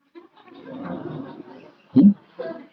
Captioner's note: laughter